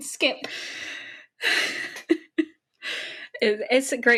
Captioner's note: sighs; laughing